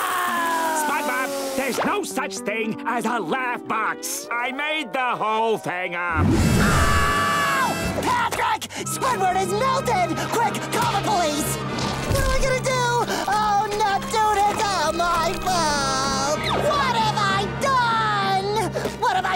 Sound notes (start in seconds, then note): 6.6 screaming